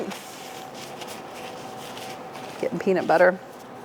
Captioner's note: gloves rustles